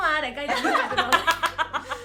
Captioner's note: laughs